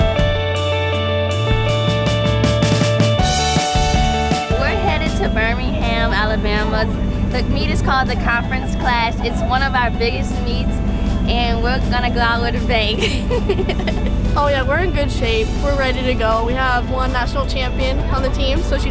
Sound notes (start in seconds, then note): 12.8 laughing